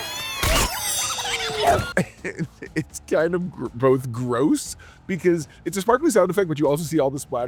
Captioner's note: pixie sounds; laughs